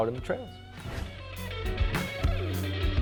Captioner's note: air whooshes; upbeat music